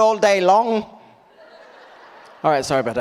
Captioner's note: audience laughs